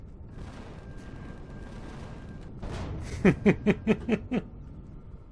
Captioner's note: turrets firing; explosion; laughs